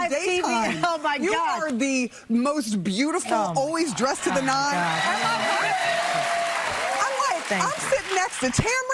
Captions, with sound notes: Oh my darling. Oh my God. You are... Come on over here. -[upbeat music playing] -[audience cheering] Oh my gosh.